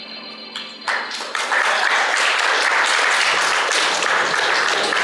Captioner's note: applause